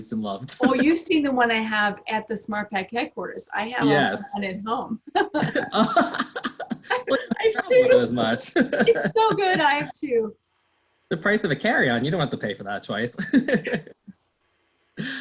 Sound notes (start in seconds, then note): 5.1 laughter